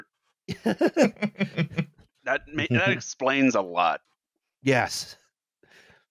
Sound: laughter

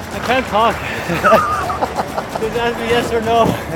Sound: laughing

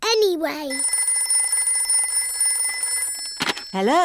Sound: phone rings

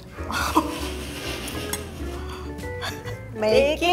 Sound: laughing

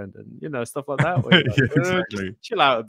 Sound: laughing

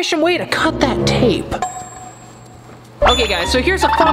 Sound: contemplating sound plays

